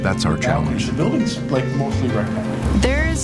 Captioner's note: background group discussion